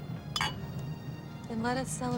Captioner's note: glasses clinking